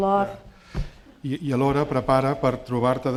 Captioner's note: speaking spanish